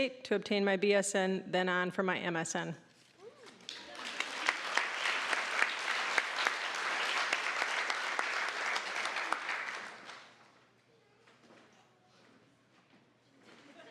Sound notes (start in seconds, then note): 3.6 applause